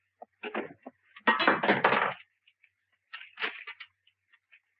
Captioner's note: door thuds